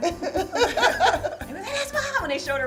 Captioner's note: laughing